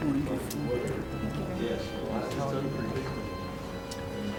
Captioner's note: people chattering